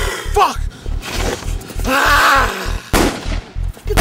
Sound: Damon growls; gun fires several times

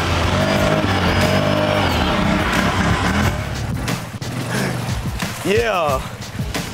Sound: engine revving

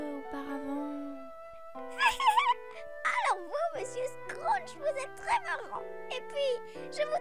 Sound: laughing

